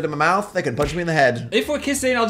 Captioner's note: punching sound effect